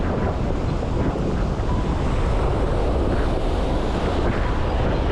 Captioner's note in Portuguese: Toque de telemóvel atendido no relógio